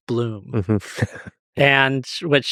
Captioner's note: chuckles